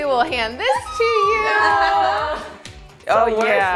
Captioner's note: laughter